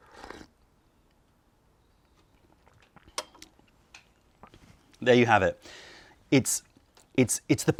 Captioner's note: sips tea